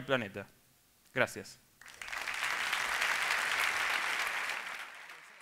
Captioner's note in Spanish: Aplausos